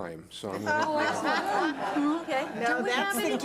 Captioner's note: laughs